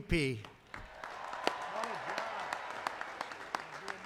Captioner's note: applause